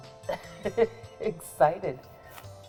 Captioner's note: laughs